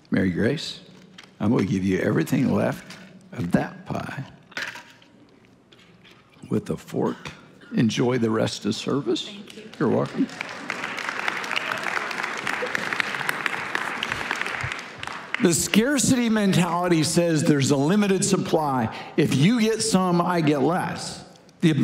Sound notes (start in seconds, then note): 11.5 congregation applauding